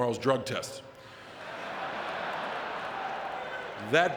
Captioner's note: audience laughing